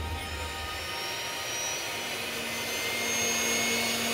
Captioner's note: airplane engines sound